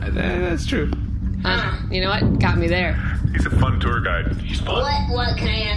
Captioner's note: whispering